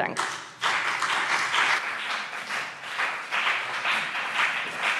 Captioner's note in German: Beifall BÜNDNIS 90/DIE GRÜNEN und vereinzelt CDU